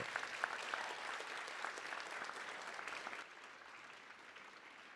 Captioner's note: audience applauding